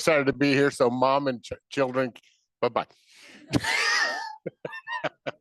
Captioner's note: laughs